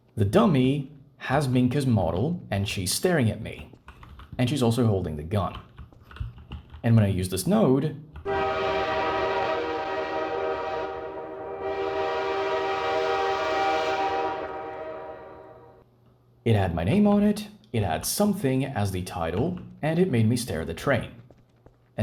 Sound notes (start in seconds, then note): 8.2 train horn